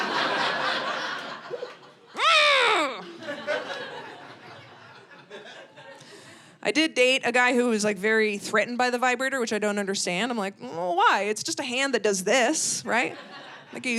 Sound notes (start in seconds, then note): 0.0 audience laughing; 2.2 grunts